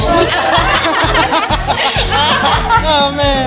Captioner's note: laughs